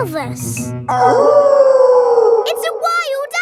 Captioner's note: wolf howling loudly